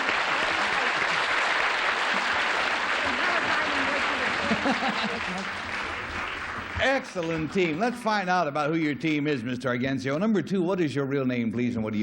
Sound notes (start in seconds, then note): 0.0 applause; 5.6 background chatter; 7.3 chuckles